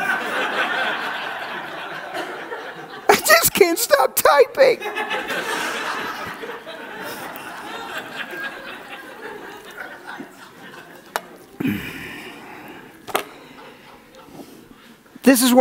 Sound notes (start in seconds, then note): 0.0 audience laughs